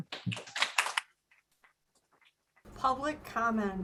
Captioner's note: applause